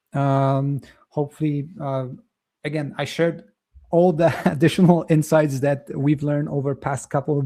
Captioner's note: chuckles